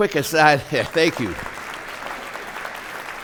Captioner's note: applause